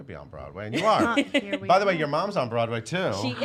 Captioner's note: laughs